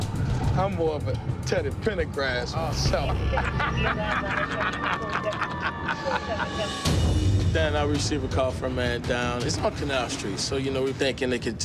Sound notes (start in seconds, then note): 3.0 laughter